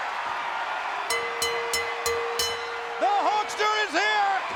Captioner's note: bell dinging